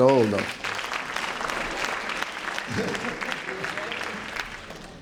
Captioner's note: applause